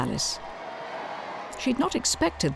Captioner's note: crowd cheering